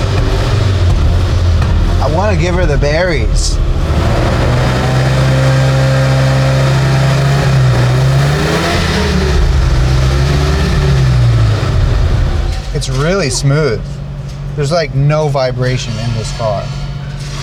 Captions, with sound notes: I want to give her the berries. (car engine revving) It's really smooth. There's like no vibration in this car.